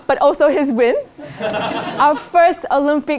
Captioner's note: laugh